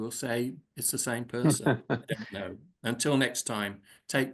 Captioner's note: laughing